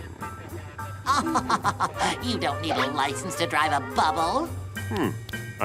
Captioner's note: laughs